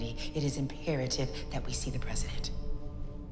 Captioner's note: none